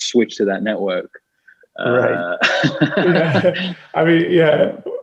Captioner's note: laughs